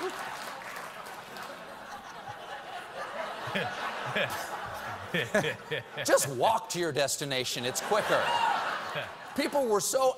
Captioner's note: laughter